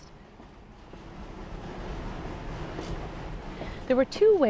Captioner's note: train engine chugging